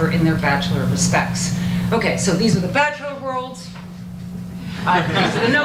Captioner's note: audience laughter